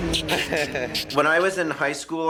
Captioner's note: chuckles